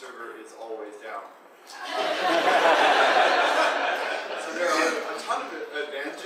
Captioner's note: audience laughing